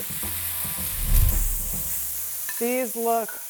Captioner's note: steaks sizzling